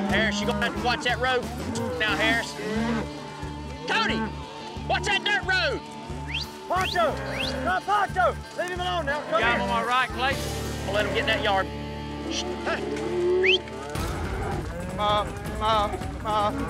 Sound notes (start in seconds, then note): 6.2 whistling, yelling; 13.4 whistling